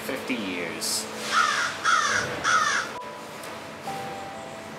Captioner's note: crow cawing